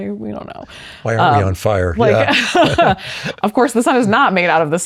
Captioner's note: laughs